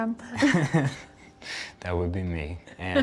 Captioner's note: laughing